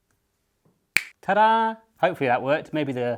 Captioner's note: snaps fingers